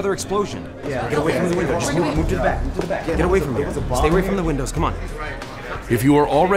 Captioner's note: crowd murmurs